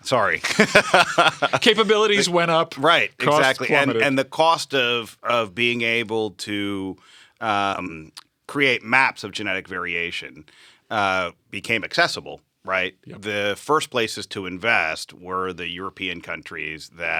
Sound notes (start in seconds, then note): 0.4 laughter